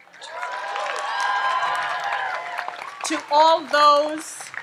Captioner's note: audience applauds and cheers